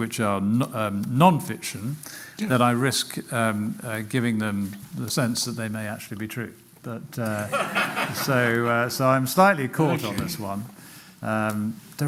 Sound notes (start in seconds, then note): 7.3 laughter